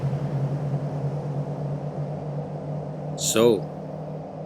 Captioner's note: car pulls away; eerie wind